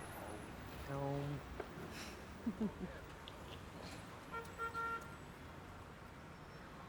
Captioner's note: laughing